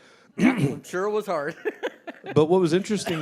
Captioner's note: laughs